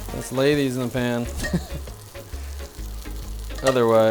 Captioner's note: chuckling